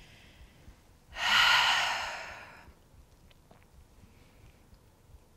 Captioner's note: sighing exhale